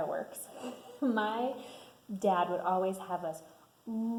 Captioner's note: laughs